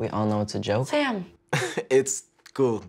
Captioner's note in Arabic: يضحك